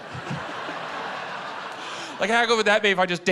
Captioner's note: laughter